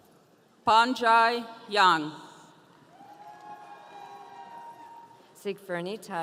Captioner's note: audience cheering